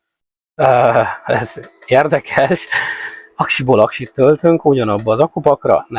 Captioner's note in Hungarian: nevetés